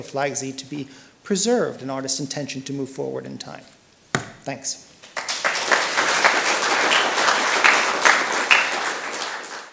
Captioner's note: applause